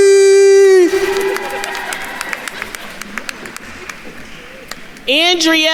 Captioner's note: attendees cheering and applauding